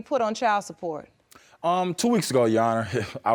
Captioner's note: scoffs